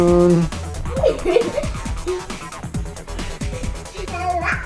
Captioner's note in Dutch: Lachende meisjes